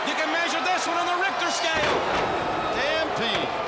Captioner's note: crowd cheering